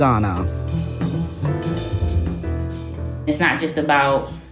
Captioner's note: classic jazz music; birds chirping